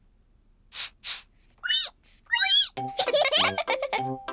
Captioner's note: sniffs and squeaks; both sniff and squeak; giggling